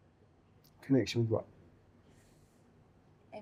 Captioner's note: none